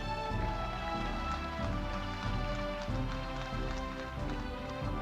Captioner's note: audience applauding